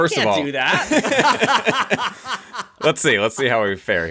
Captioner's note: laughs